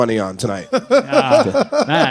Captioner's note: laughing